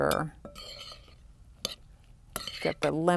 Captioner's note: stirring, scraping